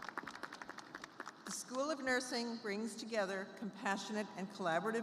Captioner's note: applause